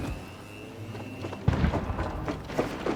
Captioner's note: explosion, gunfire